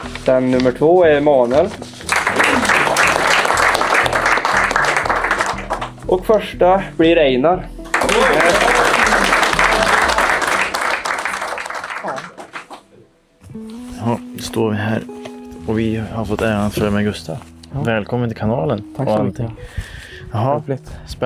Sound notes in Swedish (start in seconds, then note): 2.0 Applåder; 7.8 Applåder